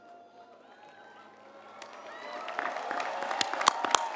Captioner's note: applause